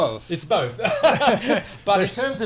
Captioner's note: laughter